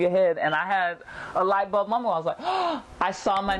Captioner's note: gasps